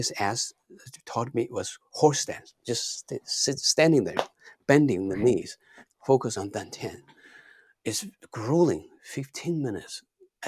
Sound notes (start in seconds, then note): 3.7 fists thumping